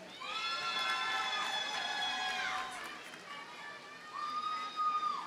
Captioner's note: audience cheers and applauds